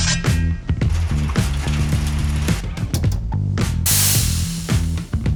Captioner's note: machine whirs; steam hisses